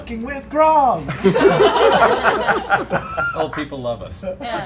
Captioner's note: laughter